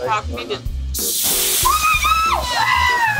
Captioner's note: loud fizzling; cheers